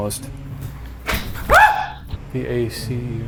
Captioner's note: screaming; item clicking